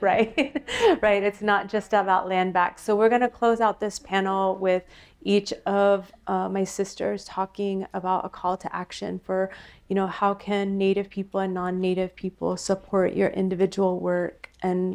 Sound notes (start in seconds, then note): 0.1 laughter